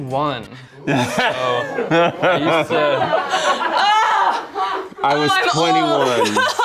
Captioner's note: laugh